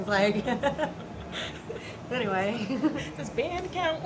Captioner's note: laughter